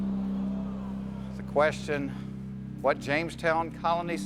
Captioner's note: audience murmurs